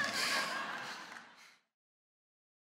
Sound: laughter

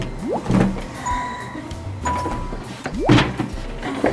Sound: lamp lights up

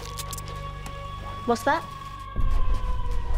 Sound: wolf howling

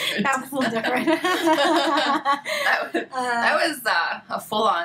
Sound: laughing

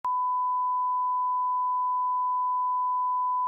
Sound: beeping

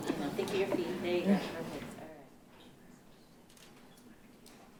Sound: speaking faintly

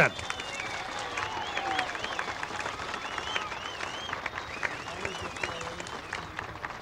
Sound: crowd cheering and applauding

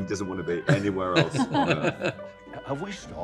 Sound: Edward laughing

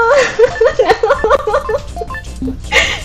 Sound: laughs

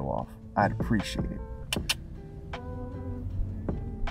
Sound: tongue clicks

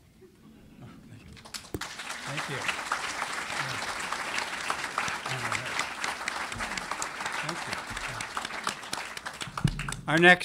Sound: applause

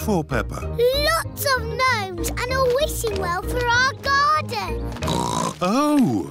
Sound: oinks

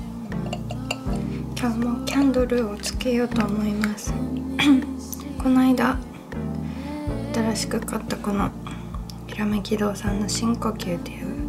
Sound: deep Breath

